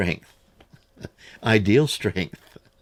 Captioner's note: laughs